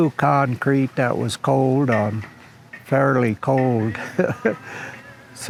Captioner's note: chuckles